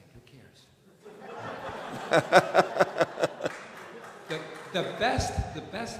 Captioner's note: laughter